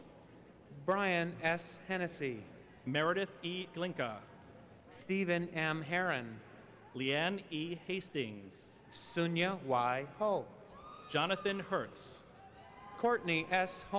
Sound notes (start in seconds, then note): none